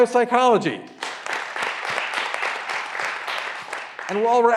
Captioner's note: graduands applauding